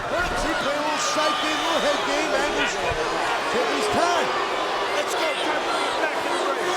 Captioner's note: crowd chattering